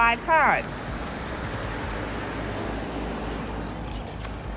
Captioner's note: car engine revving